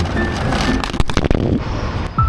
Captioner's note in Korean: 와 장 창